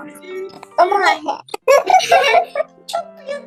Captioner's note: laughs